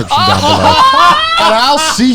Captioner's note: laughing